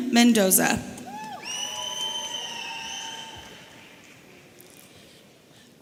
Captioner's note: audience cheering